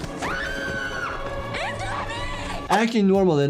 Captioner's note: screams